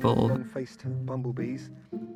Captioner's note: speaking faintly